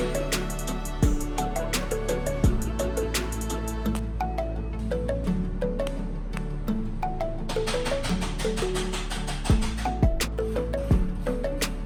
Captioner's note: background workshop sounds, cutting, welding, and tool usage